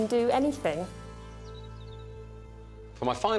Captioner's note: birds chirping